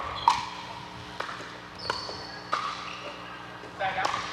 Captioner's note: ball bouncing